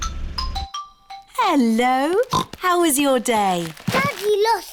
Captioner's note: oinks